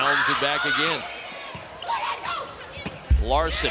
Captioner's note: players shout